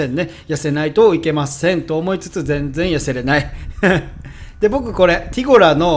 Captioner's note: haha